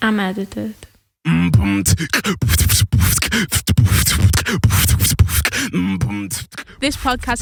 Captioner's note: beatboxing